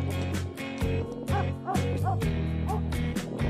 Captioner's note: dog barking